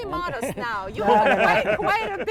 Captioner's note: laugh